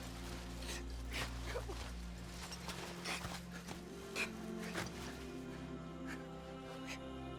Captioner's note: crying